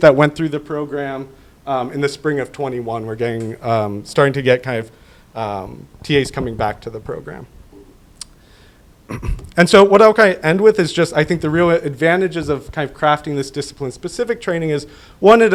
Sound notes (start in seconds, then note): 9.0 clears throat